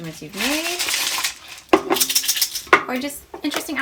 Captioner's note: beads shaking